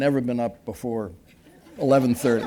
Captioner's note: laughter